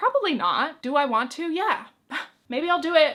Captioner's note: chuckles